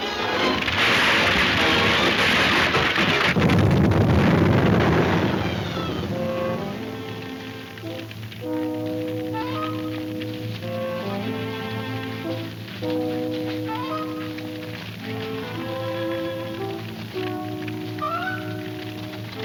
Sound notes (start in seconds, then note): 0.1 crashing; 2.8 exploding; 7.1 light orchestra music